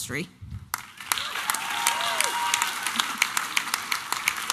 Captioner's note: applause and cheering